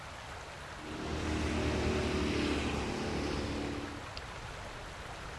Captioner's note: boat engine revving